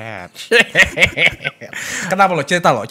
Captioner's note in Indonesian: ketawa ketawa